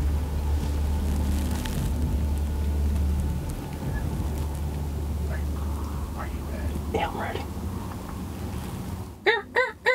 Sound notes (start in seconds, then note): 4.8 whispering; 7.7 whispering